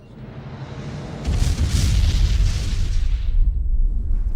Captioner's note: explosion